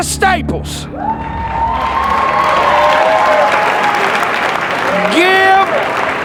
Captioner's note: spectators applauding